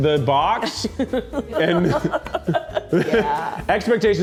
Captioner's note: laughing